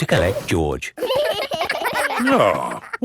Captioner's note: giggling